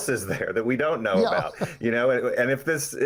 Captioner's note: laughing